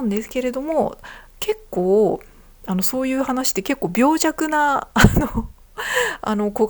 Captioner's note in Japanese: 笑い